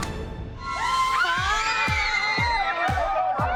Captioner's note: excited chatter and squealing